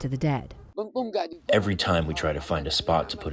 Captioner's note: through translator